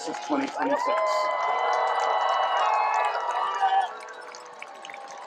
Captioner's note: cheering, applause